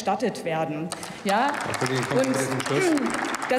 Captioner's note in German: Applaus